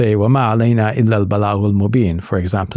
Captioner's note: speaking in Arabic